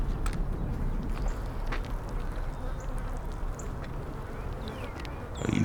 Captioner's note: flies buzzing